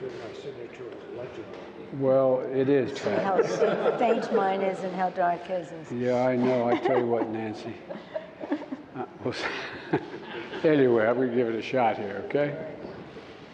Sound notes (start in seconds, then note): 9.3 laughs